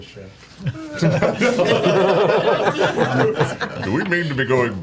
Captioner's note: all laugh